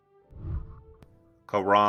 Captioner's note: whooshing